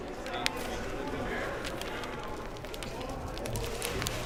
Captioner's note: crowd murmuring